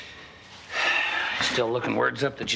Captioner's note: Nash sighing